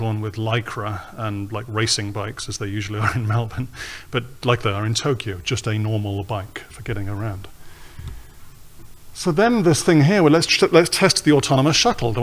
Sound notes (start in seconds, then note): 2.8 chuckles